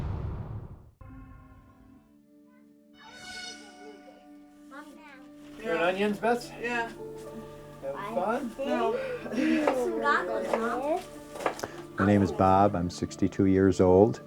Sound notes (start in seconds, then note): 4.0 chatter